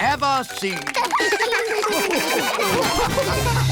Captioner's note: all laugh